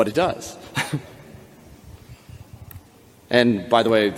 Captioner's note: chuckles